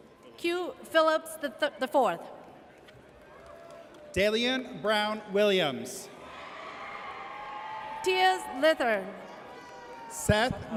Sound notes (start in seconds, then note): 6.2 audience cheers